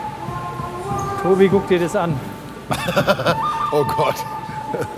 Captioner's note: laughing